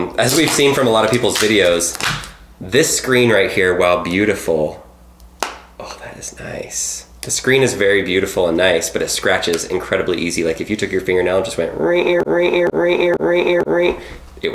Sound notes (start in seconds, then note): 5.2 snapping sound; 11.4 imitating scratching sounds